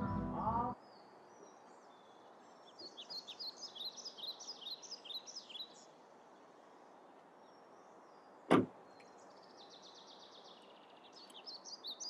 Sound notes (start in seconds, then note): 0.0 the car engine and music stop